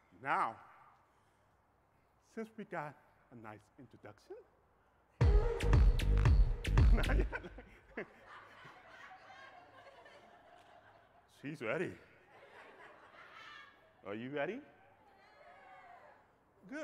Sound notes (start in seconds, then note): 5.2 energetic music; 6.8 crowd laughing; 14.9 crowd cheering